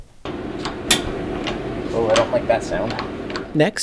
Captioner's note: crack